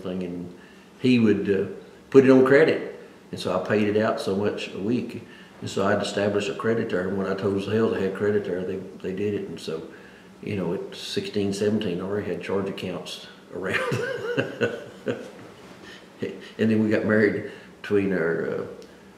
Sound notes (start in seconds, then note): 13.6 laughs